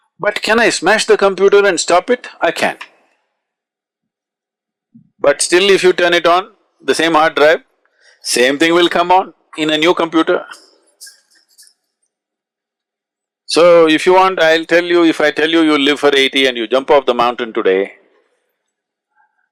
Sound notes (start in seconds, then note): 12.6 laughs